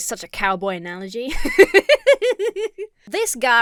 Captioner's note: laughs